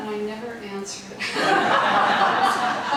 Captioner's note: audience laughing